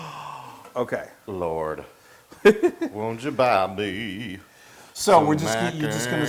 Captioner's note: laugh